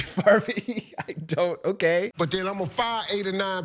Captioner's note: laughs